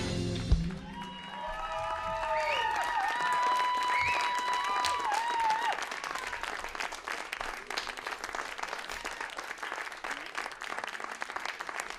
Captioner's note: cheering and applause